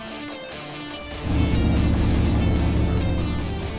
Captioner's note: engine revving